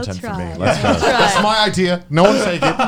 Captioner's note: laughs